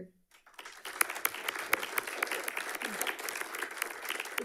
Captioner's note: audience clapping